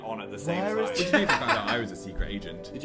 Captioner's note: laughs